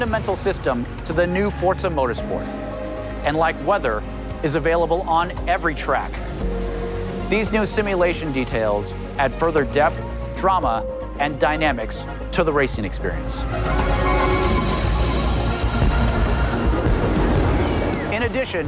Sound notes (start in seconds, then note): 17.2 fireworks booming